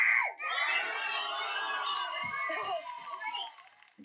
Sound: cheering

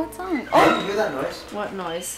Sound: door squeaks

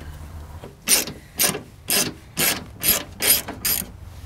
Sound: mechanical noise

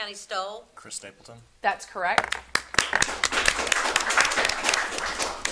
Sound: audience applauding

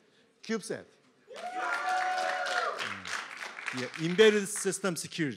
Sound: applause

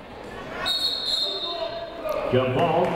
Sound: whistle tweeting

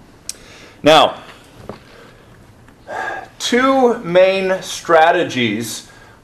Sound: sighs

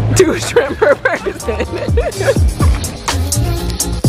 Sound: laughs; upbeat music

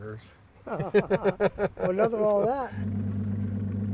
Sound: laughing

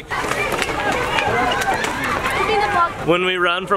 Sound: screaming

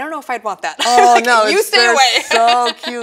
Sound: laughs

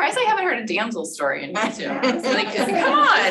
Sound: laughter

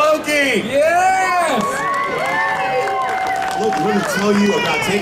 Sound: audience cheering

